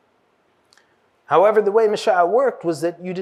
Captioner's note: hebrew